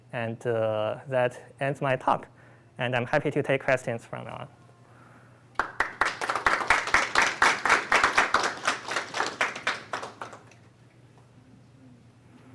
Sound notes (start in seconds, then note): 5.5 applause